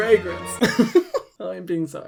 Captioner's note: laughs